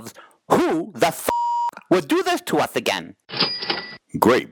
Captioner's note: beep